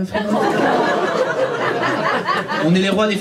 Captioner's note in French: rires public